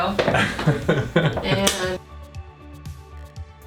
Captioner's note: laughing